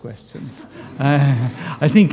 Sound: laughter

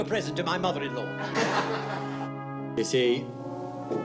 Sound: men laughing

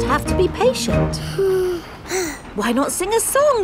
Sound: both sigh

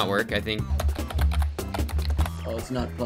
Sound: typing sounds

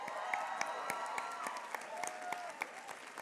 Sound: applause

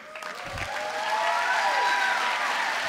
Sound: applause

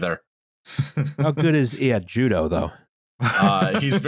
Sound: laughter

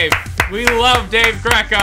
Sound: clap; claps

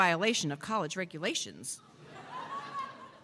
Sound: laughter

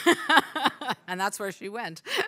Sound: laughs

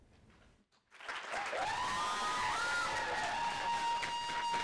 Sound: audience applauding

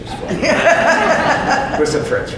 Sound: audience laughs loudly

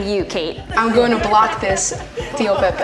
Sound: staff members laughs

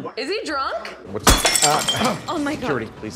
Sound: glass clanking

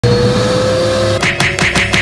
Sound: vacuum whirring; smacking noises

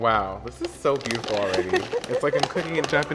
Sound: laughs

